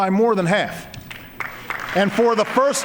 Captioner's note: applause